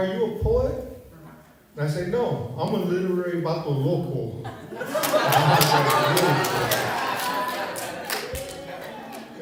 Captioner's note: laughter, applause